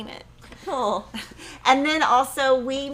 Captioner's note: chuckles